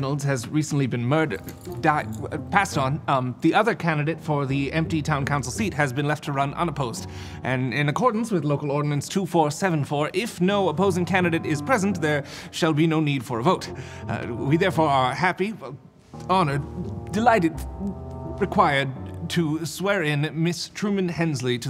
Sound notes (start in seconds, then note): 1.6 stuttering